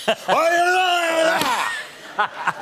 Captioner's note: screaming gibberish